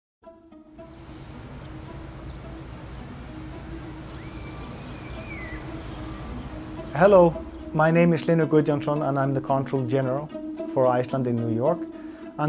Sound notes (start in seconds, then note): 0.2 soft music; 2.3 distant urban noises